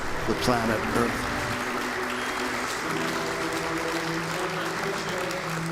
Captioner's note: audience applauds